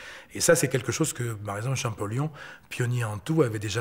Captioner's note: French spoken audio